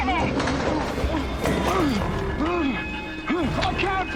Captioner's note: Steve grunting